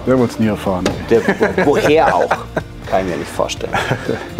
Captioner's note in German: lachen